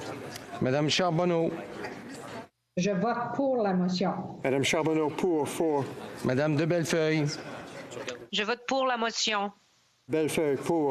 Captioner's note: speaking FRENCH